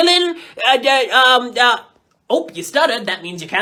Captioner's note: stutters